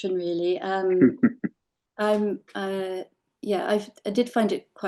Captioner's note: laughing